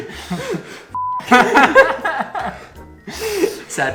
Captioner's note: laughs